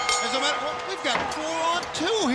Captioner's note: bell ringing